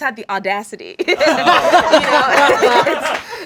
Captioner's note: all laugh